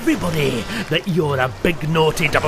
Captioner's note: gasps